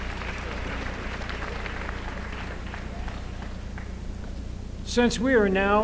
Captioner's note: applause